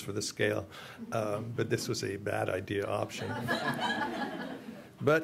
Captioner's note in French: rire